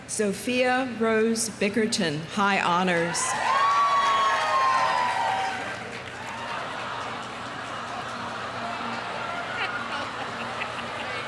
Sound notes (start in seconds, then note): 3.1 audience cheering; 3.4 audience applauding; 8.1 audience laughing